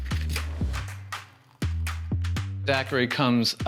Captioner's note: liquid trickling